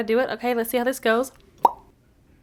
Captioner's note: pop